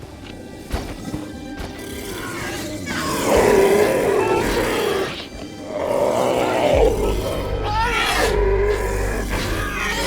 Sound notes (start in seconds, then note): 1.6 tyrannosaurus snarling; 1.7 Triceratops roaring; 6.2 screeching